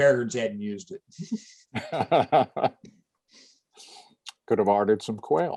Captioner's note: laughter